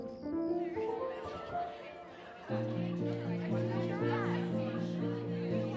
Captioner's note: women chattering